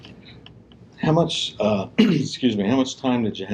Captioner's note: clears throat